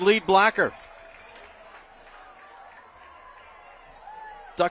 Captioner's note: applause